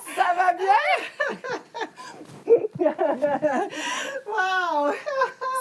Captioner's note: rires